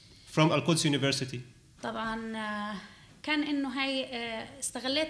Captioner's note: speaking arabic